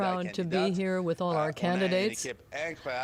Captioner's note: speaking French